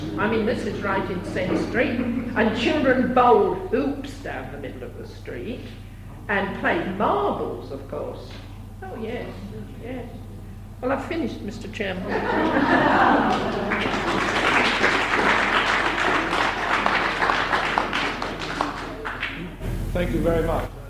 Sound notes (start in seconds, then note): 12.6 laughter; 13.2 applause